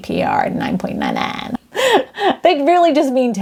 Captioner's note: laughs